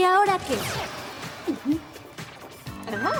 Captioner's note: bang